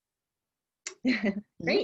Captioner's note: laughter